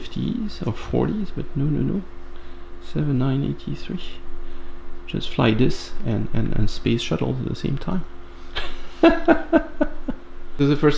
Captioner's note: laughter